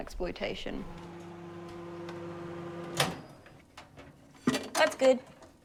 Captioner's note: microwave whirring